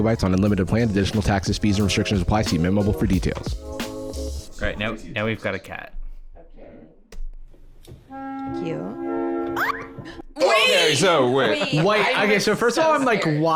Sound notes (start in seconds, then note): 10.4 clipped scream